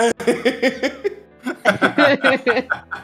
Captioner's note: laughter